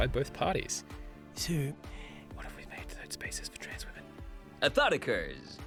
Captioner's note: whispers